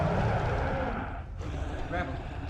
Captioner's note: hellhound growl